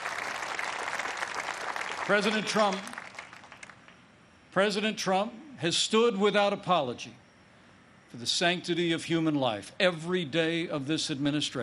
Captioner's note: applause